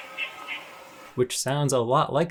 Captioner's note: bird grunting